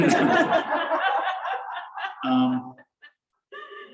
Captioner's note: laughter